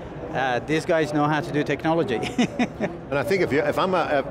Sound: laughing

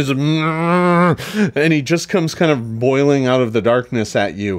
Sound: grunts

